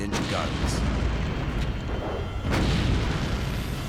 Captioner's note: gunfire